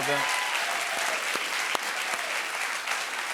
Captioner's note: cheers and applause